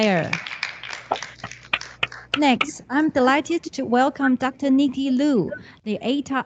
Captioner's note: applause